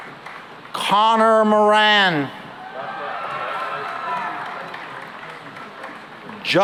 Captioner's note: cheering and applause